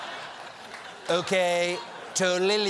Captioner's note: laughter